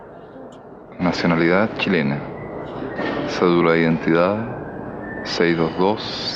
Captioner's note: speaking in foreign language